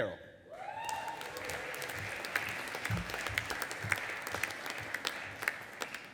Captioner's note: audience applauding and cheering